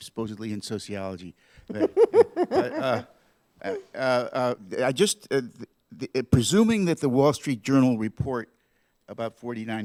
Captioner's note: laughter